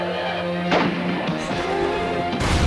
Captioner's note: exciting music; gun blasts; loud explosion